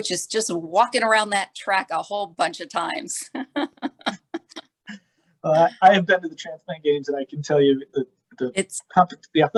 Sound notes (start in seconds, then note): 3.3 laughter